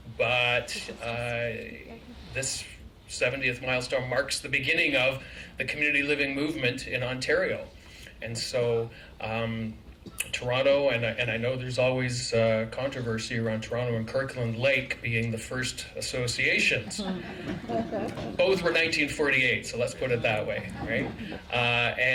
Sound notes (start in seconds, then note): 16.8 laughter